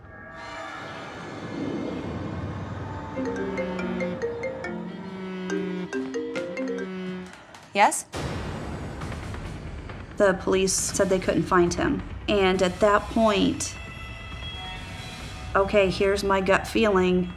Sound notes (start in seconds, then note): 3.2 cellphone ringing